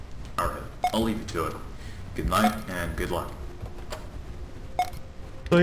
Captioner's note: tape Stops